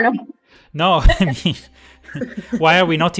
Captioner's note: laughs